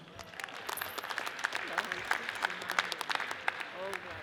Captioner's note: audience applauds